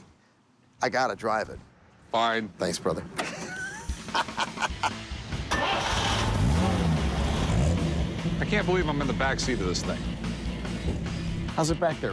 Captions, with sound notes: I got to drive it. - Fine. Thanks, brother. [laughs] [starts car] I can't believe I'm in the back seat of this thing. How's it back there, Rick? Comfortable?